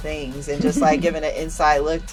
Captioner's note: laughs